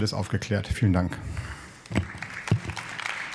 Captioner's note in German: Beifall